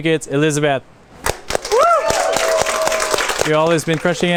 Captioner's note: chefs applauding